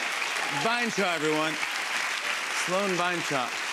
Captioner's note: applause